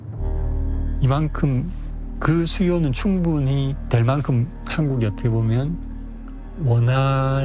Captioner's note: speaking Korean